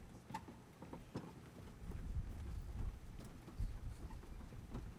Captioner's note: items shuffling